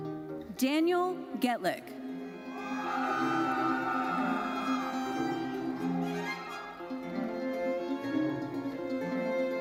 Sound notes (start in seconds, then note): 2.5 audience cheering and applauding; 5.8 orchestral music continues